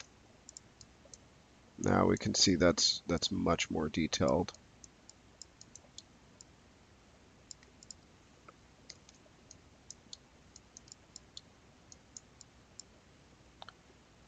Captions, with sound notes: Now we can see that's much more detailed. (mouse clicking)